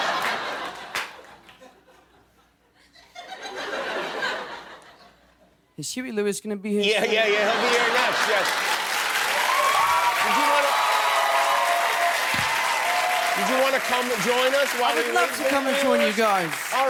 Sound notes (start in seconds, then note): 0.0 laughter; 8.9 applause